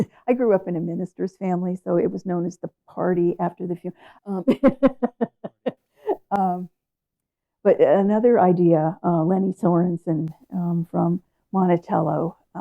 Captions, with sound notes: I grew up in a minister's family, so it was known as the party after the funeral. (laughs) But another idea, Leni Sorensen from Monticello